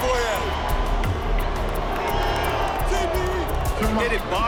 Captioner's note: audience booing, cheering